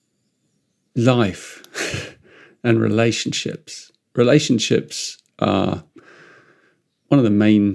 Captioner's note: chuckles